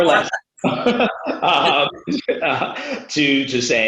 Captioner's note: laughing